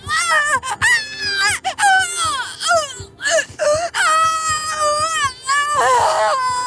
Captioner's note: screaming